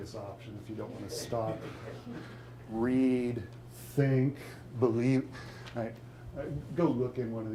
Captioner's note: audience laughing